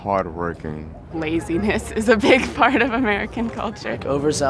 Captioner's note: laughing